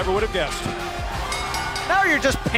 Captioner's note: bell ringing